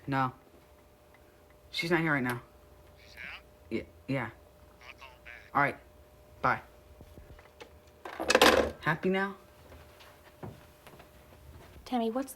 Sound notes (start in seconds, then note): 2.8 on phone